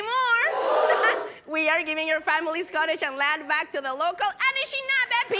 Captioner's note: cheering & applauding